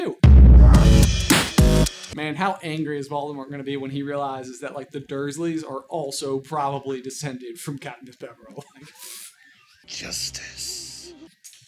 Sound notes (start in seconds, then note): 0.2 outro Theme Music; 8.5 laughter